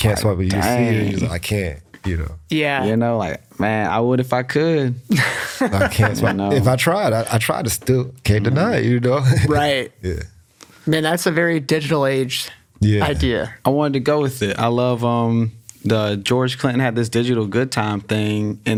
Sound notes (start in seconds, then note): 5.1 laughs; 9.1 chuckles